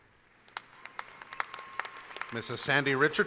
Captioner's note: applause